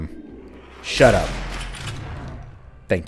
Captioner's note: bam